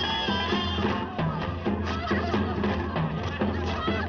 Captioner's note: laughing